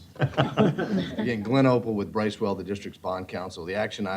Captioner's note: laughter